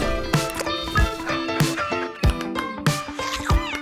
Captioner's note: dog panting; slurping